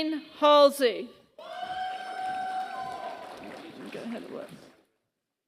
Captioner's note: applause